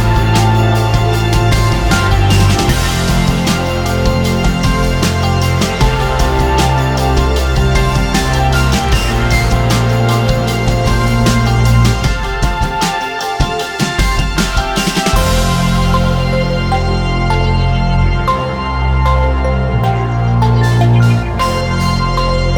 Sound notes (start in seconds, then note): 20.4 laugh